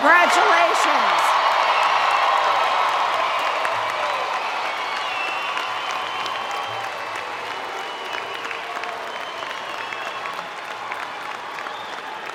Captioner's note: cheering and Applause